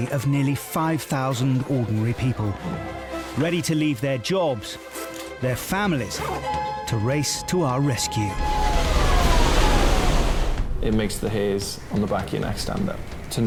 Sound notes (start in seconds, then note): 8.7 alert dinging; 8.7 water sloshes